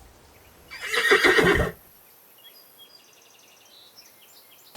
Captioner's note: horse whinnying